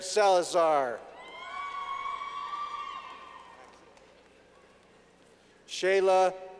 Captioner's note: clapping